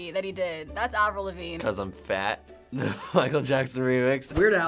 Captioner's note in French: rires